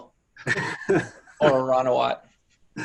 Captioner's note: laughter